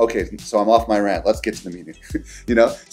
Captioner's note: laughs